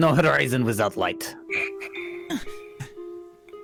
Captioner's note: perplexed breathing